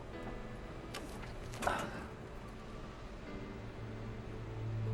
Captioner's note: sighs